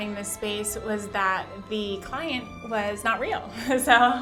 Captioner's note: chuckles